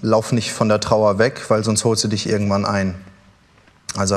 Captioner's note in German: none